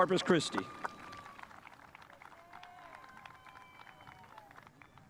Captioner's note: spectators applauding